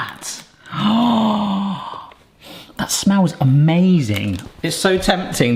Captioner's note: inhales deeply